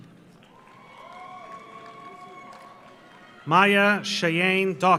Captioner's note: audience applauds; audience cheers